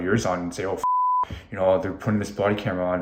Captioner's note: beep